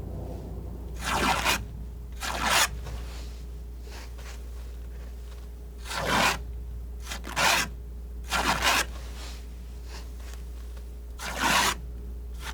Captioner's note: scratching